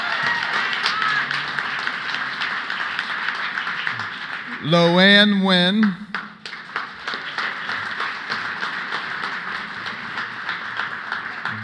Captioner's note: applause